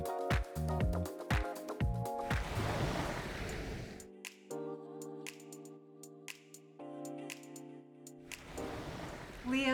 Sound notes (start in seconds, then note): 0.0 upbeat music continues; 2.2 water splashes; 4.6 gentle music; 8.3 water splashes